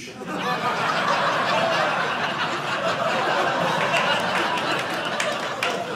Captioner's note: audience laughing